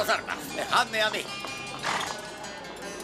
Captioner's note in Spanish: relincho